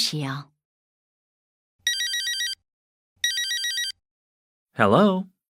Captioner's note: cell phone rings